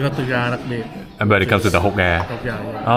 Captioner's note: speaking Vietnamese